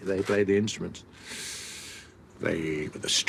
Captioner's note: he inhales